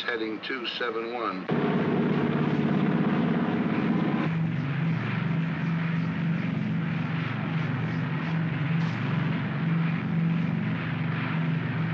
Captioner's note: aircraft rumbles